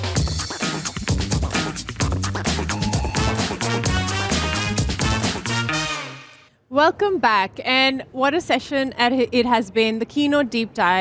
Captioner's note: applause